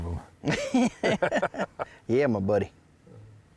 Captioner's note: both laughing